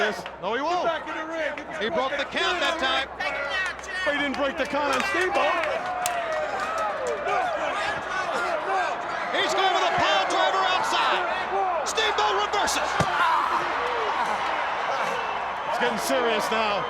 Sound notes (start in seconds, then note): 0.0 crowd chatter; 9.0 crowd chatter